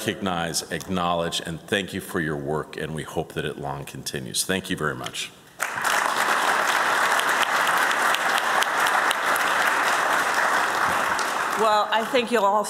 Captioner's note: applause